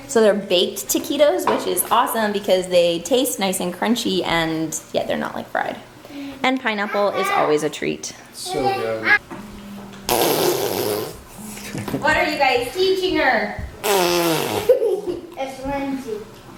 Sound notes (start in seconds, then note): 10.0 fart noise; 13.8 fart noises